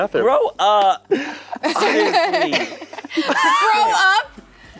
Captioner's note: laughing